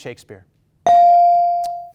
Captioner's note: bell dings